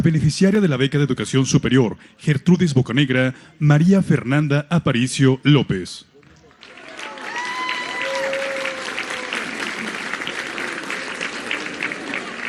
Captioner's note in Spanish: aplausos